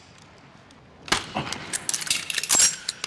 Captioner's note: click!; smack!